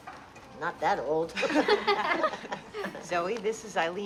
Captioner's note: laughing